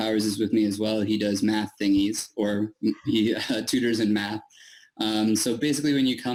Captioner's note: chuckles